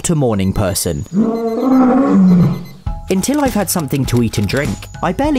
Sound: roars

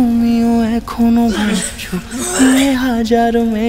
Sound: coughing

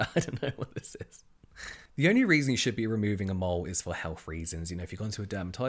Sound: laughs

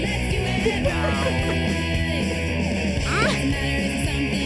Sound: laughs; grunts

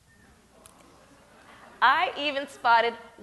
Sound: audience murmurs

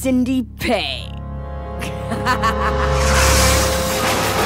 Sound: demonic laughter

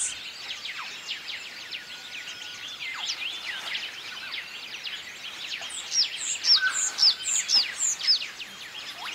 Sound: birds chirping

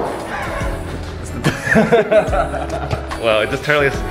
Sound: both laugh

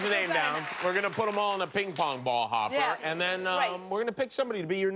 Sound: cheers and applause

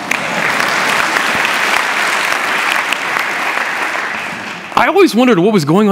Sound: applause

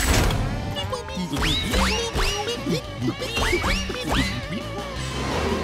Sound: beeping

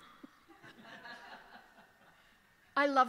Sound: laughter

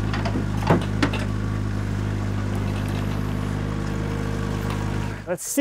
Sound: telehandler engine rumbling

